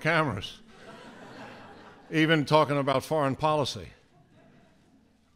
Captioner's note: laughter